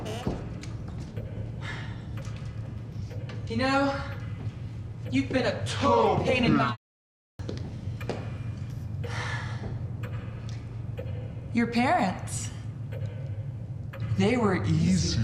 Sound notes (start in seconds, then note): 0.0 door creaking; 2.7 clock ticking